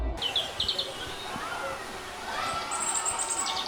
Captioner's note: birds chirping; children laughing; children yelling